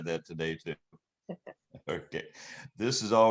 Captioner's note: laughing